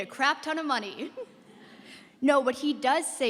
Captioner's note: laughter